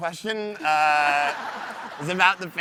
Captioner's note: audience laughs